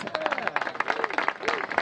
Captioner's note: applause